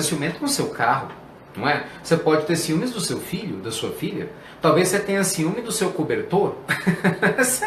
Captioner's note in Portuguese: risos